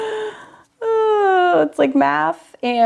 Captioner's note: laughs; sighs